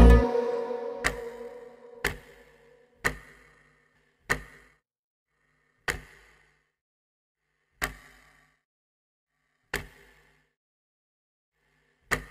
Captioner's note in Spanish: clics